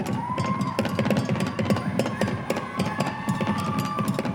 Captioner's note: audience cheering